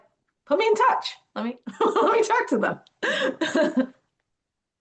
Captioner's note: laughs